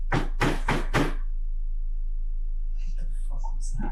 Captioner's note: heavy knocking